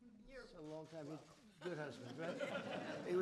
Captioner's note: laughter